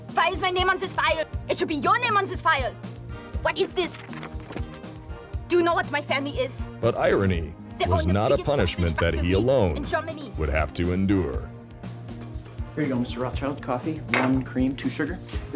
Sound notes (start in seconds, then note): 6.9 voiceover; 10.6 voiceover